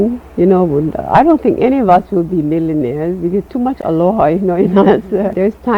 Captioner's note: chuckles